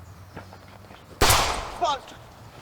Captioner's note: gunshots and broken glass